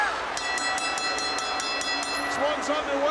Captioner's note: bell ringing